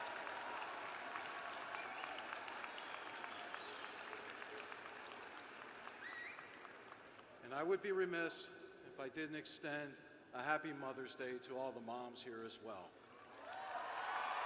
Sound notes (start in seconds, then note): 0.0 applause; 0.0 cheers and applause